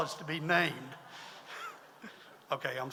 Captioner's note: audience laughs